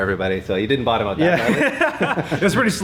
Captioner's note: laughs